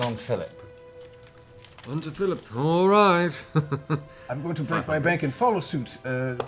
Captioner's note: laughs